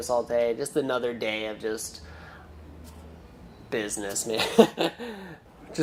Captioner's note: laughing